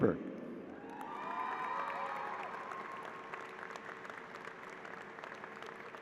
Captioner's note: applause